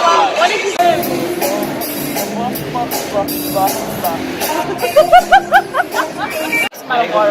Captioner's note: laughs